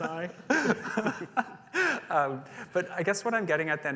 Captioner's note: laughing